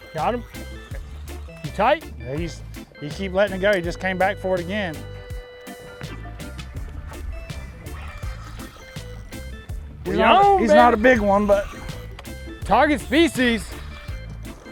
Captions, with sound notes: - Got him? You tight? - Yeah, he's- He keeps letting it go. He just came back for it again. (reel whirring) Well- - He's on, dude! - He's not a big one, but- - Target species.